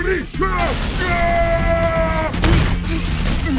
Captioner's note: loud beep; explosion